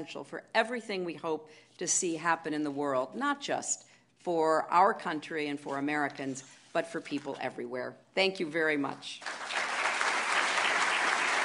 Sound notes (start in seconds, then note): 9.2 applause